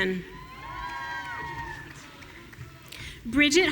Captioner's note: audience cheering